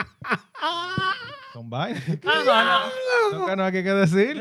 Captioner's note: laughing; speaking In Foreign Language